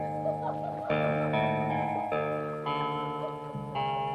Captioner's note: people laughing